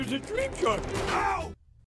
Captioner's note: thuds